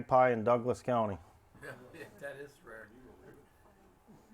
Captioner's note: chuckles; indistinct chatter